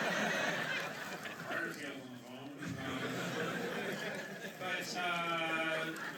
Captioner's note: laughter